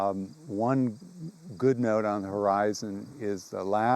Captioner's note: insect chatter